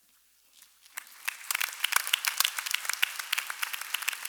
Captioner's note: applause